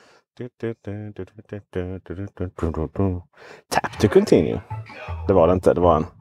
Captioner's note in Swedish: Nunnar på -musiken